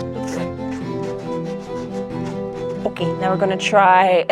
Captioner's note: tool scraping